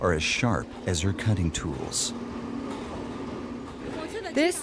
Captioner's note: speaking in foreign language